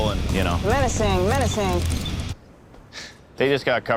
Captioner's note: camera clicking